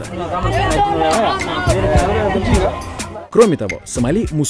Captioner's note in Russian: возмущенные крики на сомалийском